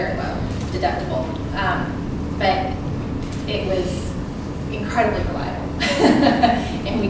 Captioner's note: laughs